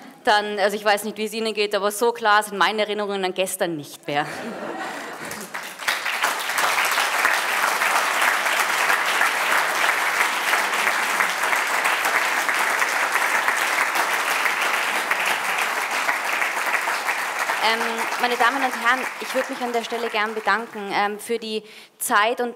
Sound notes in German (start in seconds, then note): 4.2 Publikum lacht; 5.1 Publikum klatscht